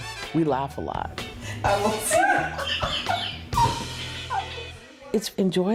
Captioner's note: laughter. Inaudible chatter